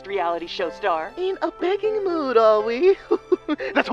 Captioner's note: laughs